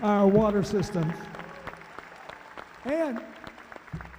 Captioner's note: cheering